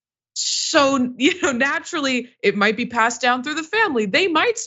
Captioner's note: laugh